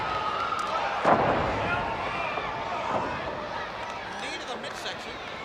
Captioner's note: blows thudding; body thudding